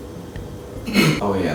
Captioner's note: clears throat